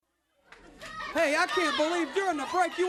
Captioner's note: crowd chatter